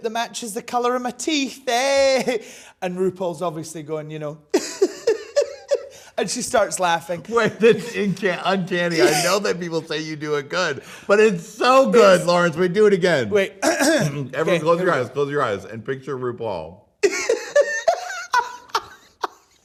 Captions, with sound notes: that matches the color of my teeth, hey." And RuPaul's obviously going, you know, (laughs) and she starts laughing. - Wait, that's uncanny. I know that people say you do it good, but it's so good, Lawrence, do it again. - Wait, (clears throat) - Everyone close your eyes, close your eyes, and picture RuPaul. (laughs)